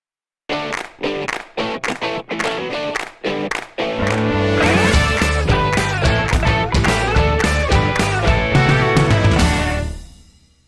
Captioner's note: claps